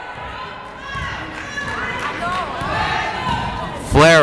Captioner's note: yelling